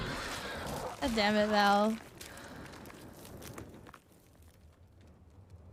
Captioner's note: gasp